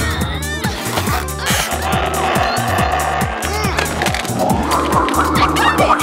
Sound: shouting

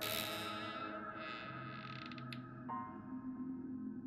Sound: creaking

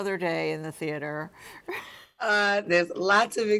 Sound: laughs

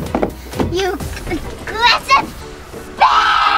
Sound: screams

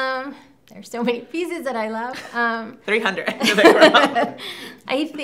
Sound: both laugh

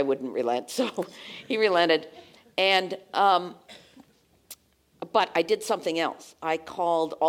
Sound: laugh

